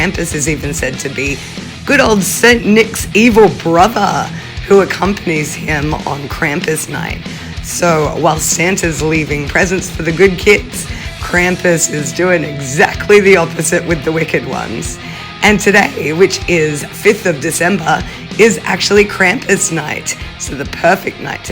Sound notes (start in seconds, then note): none